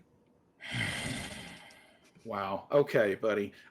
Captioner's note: grunts